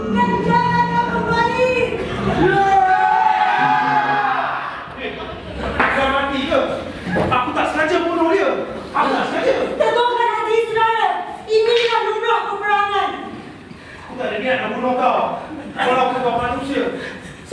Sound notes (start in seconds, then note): 2.4 animals cheer